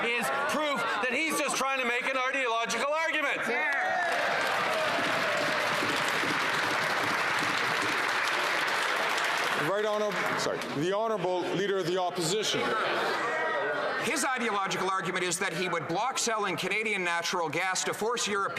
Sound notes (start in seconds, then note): 7.2 some Applause